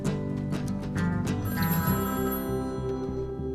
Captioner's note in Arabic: هاتف RlNGlNG